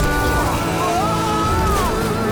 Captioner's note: screaming; dinging